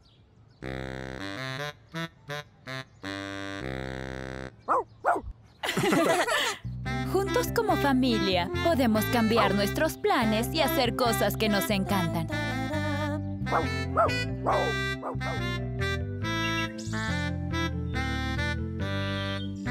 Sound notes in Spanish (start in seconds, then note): 4.6 ladridos; 5.6 risas; 13.4 ladridos; 16.2 trinar de aves